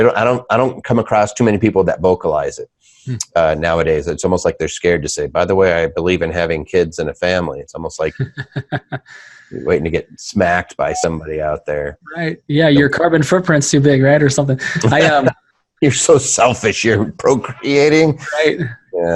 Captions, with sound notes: - I don't come across too many people that vocalize it nowadays. It's almost like they're scared to say, by the way, I believe in having kids and a family. It's almost like-- (laughing) Waiting to get smacked by somebody out there. - Yeah, your carbon footprint's too big, man, or something. - You're so selfish, you're procreating?